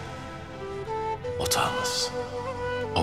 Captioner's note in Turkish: Ertuğrul iç ses; Ertuğrul iç ses